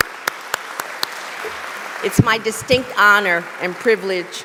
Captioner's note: applause